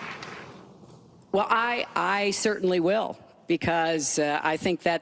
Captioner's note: applause